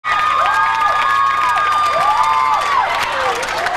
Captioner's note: crowd cheering